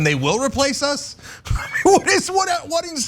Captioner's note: laugh